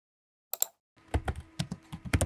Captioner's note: mouse click; typing